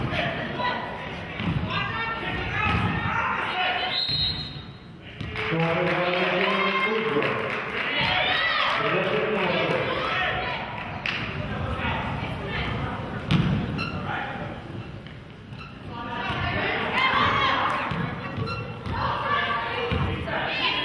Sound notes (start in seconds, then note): 3.8 whistle blows; 5.9 murmurs; 8.6 clapping